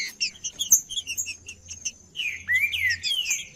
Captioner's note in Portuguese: trinca ferro cantando